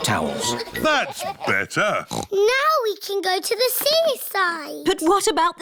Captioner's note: oinks